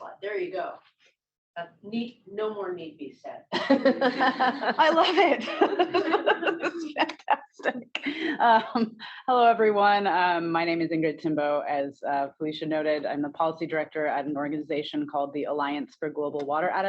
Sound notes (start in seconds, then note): 3.5 laughter; 3.6 laughs